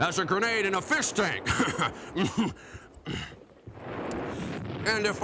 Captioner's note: chuckles